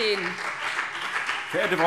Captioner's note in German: Beifall BÜNDNIS 90/DIE GRÜNEN und CDU - Zurufe SPD